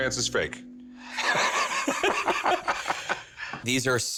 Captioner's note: laughing